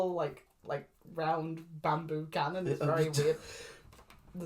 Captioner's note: confusion noises